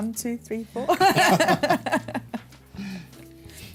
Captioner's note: laughter